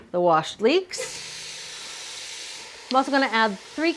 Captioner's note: leeks sizzling